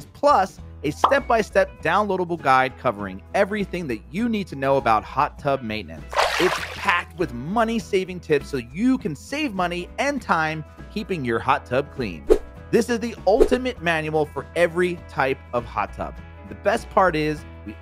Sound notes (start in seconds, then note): 12.3 air whooshing